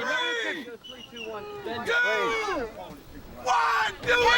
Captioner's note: crowd cheering